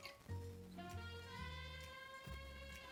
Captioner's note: liquid pouring